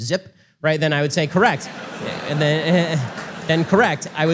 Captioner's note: audience laughter